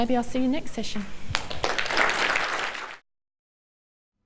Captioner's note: audience applause